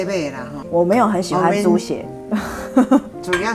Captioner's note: laughs